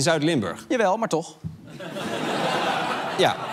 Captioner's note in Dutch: gelach